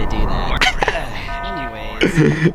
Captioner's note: laughs to myself